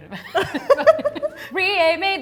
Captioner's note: laughs